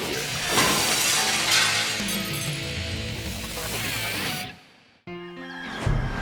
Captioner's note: glass shattering; intense music